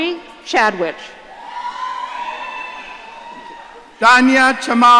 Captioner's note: audience cheering